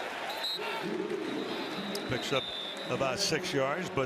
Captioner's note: whistle